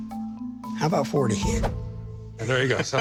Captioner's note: laughs